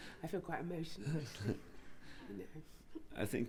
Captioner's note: she inhales deeply